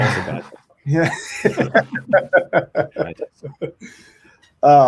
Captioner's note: both laughing